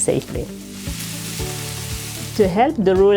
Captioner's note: squash sizzling in pan